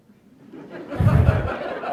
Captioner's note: laughter